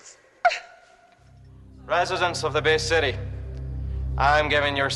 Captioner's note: В тежък акцент